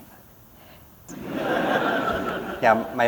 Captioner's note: laughter